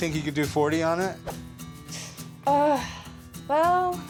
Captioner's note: winces